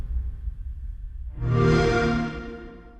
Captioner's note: xbox sound